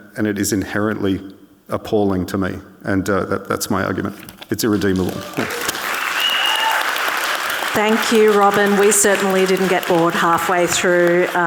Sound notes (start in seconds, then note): 4.8 audience cheering